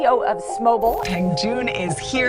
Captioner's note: television static